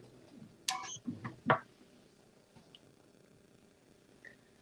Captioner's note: beeping